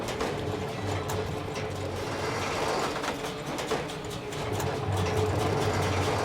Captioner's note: metal creaking